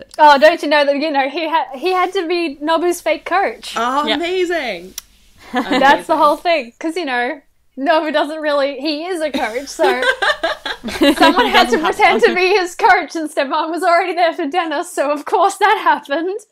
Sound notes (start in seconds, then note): 5.5 laughter